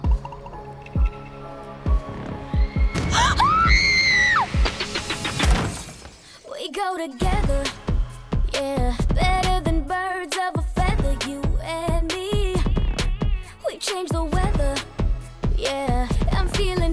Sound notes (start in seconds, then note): 3.0 gasps, screams; 3.0 woman screams in distance